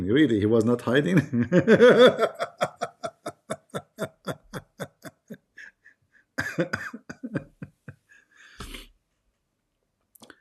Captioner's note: Ketawa